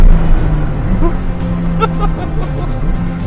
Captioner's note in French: Rire nerveux